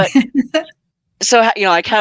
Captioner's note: laughing